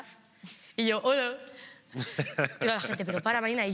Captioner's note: laughter